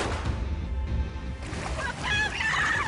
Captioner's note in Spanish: Detonación de disparo